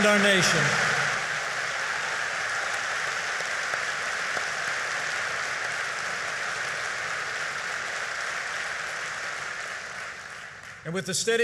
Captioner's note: applause